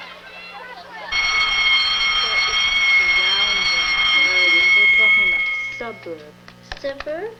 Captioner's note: school bell rings loudly